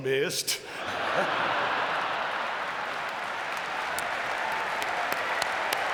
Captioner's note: audience laughing and clapping